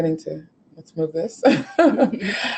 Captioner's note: laughing